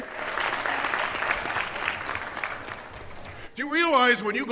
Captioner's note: cheers and applause